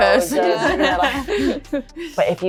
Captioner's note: group laughs